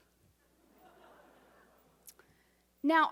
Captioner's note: audience laughs